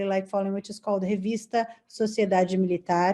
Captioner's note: speaking in foreign language